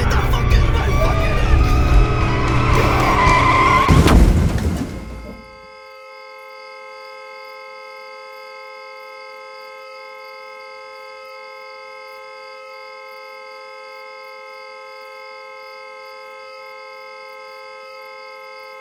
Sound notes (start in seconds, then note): 3.3 loud crash; 6.9 car horn and crickets in the background